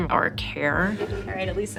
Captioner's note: meeting Chatter